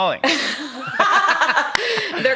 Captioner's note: laughter